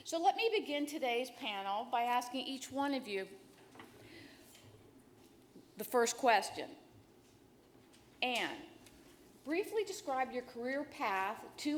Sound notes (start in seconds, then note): none